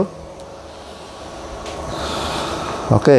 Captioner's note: exhale